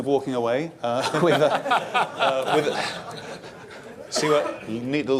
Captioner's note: laughter